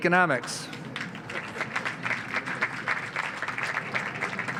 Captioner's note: audience applauds